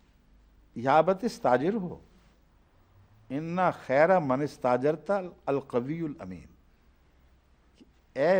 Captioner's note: Arabic